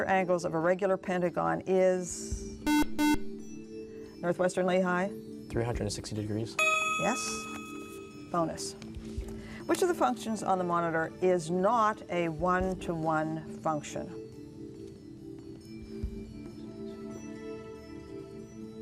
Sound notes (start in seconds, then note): 2.6 beep